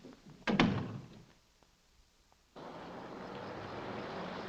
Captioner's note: door thuds shut; car rumbling